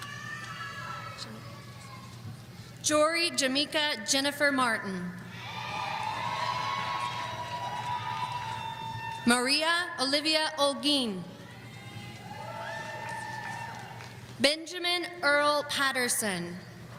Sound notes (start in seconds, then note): 5.4 audience cheering